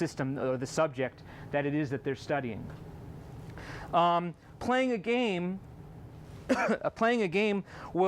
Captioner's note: coughs